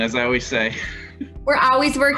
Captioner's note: laughter